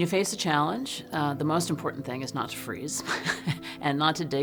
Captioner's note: chuckles